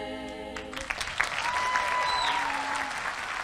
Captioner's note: applause and cheering